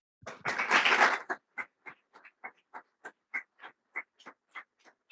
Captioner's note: audience applauding